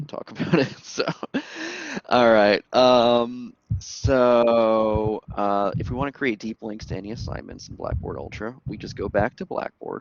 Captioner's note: laughter